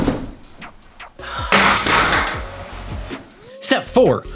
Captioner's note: thud; the crashing sound of an expensive light falling over and breaking